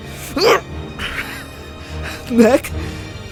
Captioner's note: grunts